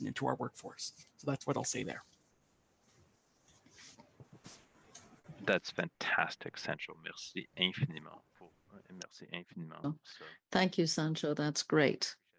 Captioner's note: speaking French